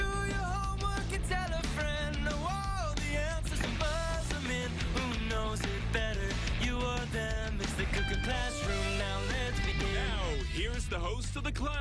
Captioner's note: bell rings